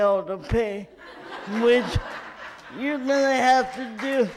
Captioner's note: audience laughs